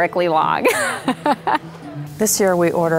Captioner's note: laughter